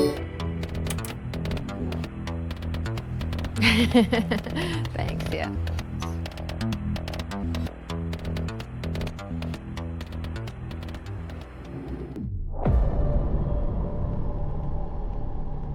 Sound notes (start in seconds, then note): 0.2 upbeat music; 3.6 laughing; 12.7 suspenseful music